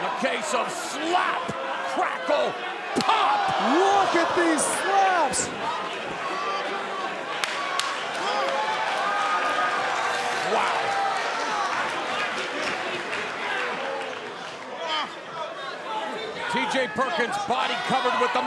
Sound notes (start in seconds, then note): 5.9 crowd cheering; 11.8 crowd shouting